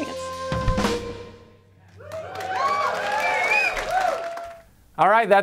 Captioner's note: applause